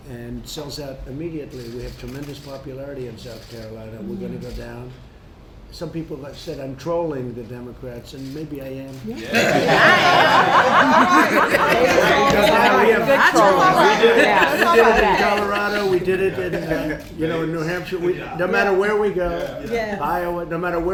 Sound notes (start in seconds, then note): 9.1 laughter